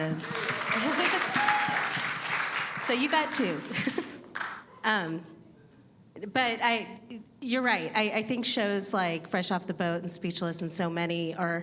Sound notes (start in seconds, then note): 0.0 audience applauding; 3.4 chuckles